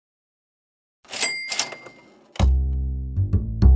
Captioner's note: the sound of a shop cash register